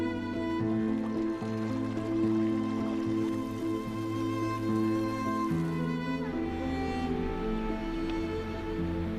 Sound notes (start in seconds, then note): 0.7 water whooshing